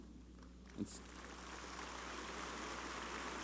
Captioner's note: applause